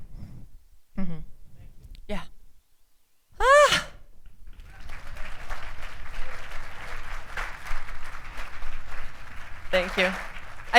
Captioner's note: applause